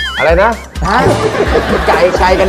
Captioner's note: laughing